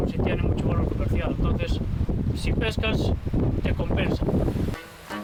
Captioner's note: sound of the rough winds of the Atlantic